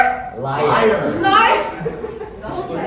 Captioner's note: chuckles